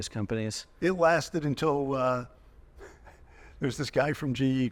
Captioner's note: chuckling